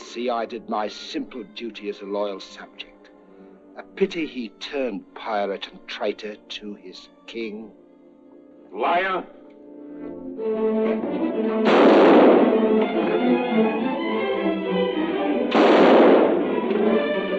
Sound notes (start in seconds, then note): 11.6 gunshot; 12.4 dramatic orchestral music; 15.5 gunshot